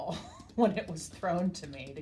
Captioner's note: laughs